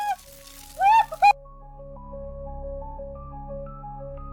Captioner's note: glitch; eerie music begins